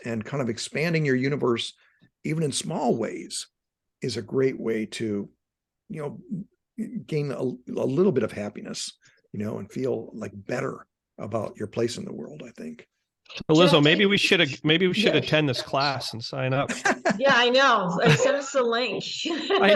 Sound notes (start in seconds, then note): 16.5 laughing